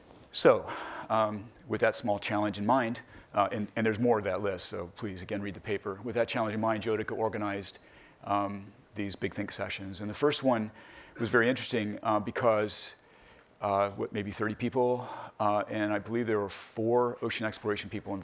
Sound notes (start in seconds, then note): none